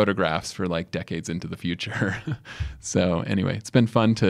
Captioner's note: chuckles